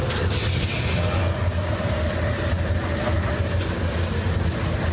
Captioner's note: wind howling